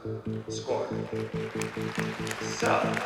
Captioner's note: applause